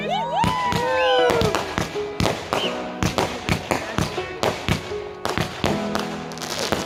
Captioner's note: crowd; fireworks bursting